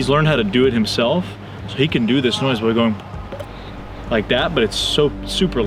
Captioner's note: mimics pop